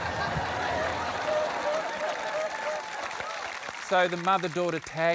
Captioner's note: applause